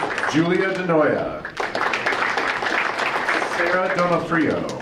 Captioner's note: audience applauding